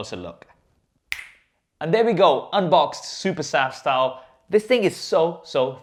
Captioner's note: snapping